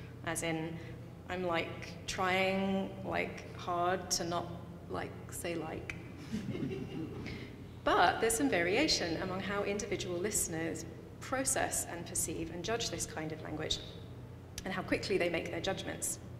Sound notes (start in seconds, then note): 6.2 audience laughing